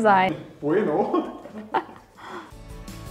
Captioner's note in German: lacht